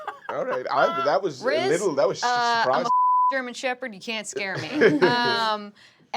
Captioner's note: laughing; beep